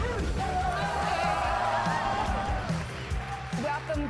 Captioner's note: crowd cheering